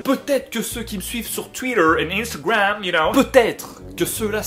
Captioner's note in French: accent anglais